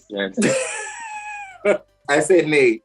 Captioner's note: laughs